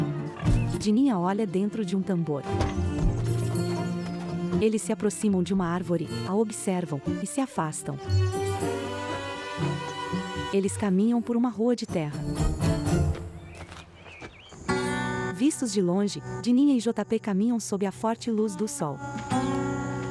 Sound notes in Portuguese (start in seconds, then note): 0.1 Porcos grunhindo; 2.8 Pássaros